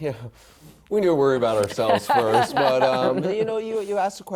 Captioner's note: laughter